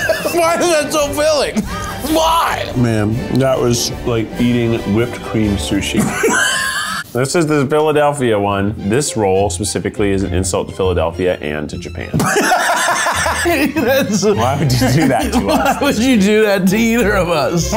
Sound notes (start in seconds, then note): 0.0 laughing; 5.9 laughs; 12.1 laughs